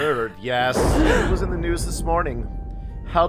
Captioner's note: all gasp